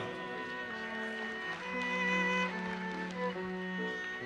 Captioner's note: audience applauses